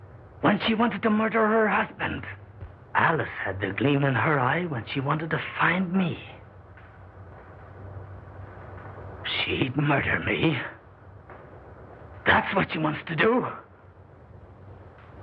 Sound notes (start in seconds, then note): none